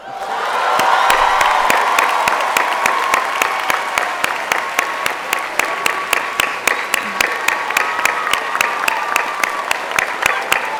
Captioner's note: applause